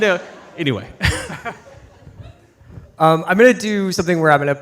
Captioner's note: light laughter